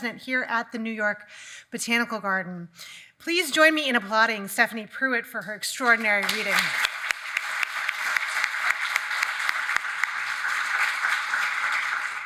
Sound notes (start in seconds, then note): 5.8 audience clapping